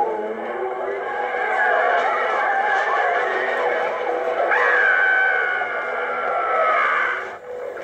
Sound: people screaming and running from ghosts

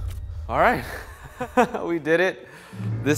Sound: laughs

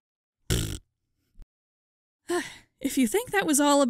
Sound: blows a raspberry

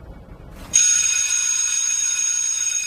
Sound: nat pop of bell ringing

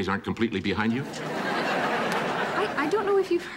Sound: audience laughing

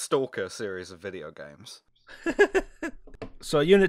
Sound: laughter

